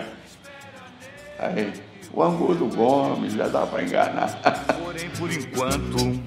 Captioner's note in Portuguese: risos